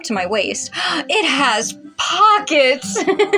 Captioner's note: gasp; angelic Choir; giggle